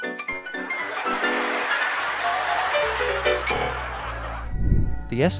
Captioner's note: audience laughter